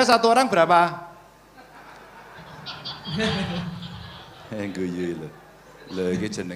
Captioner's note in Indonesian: tertawa